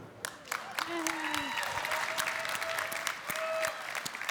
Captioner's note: audience applauding